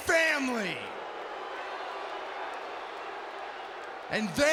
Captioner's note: crowd boos